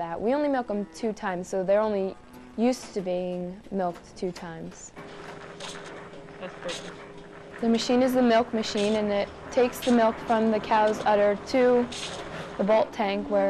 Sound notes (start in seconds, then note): 4.9 machine humming